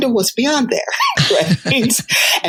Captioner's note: chuckles